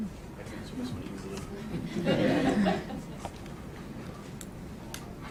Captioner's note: laughter